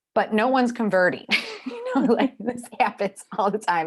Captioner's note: laughing